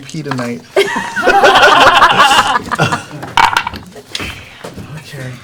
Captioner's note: laughter